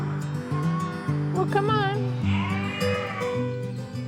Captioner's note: sheep bleat